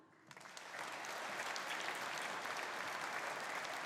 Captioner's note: audience applauding